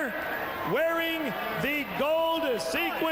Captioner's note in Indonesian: Tepuk tangan